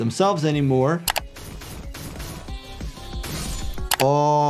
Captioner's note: rods thudding; mouse clicking